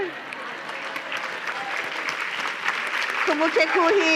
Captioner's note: applause